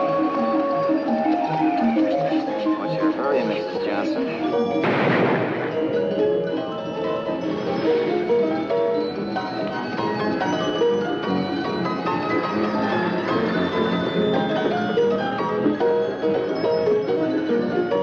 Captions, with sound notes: - What's your hurry, Mrs. Johnson? (gunshot blasting) (cheerful music)